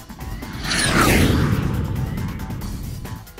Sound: jet fly

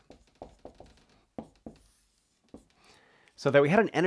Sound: marker tapping board

